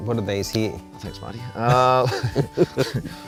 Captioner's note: laughs